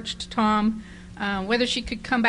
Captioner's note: none